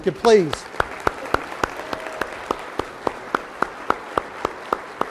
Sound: applause

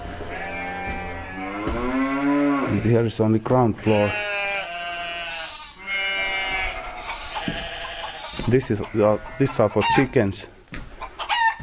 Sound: the sheep bleats

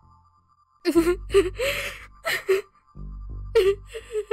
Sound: Tia crying

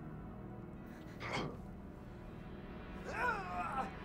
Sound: Solomon groans

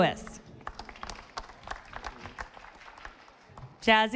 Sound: audience applauding

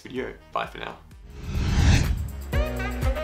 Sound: whooshing; upbeat music

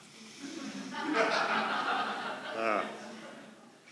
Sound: laughter

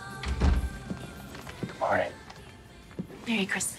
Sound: whispers

